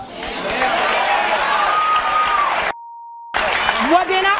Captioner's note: audience applauding; audience cheering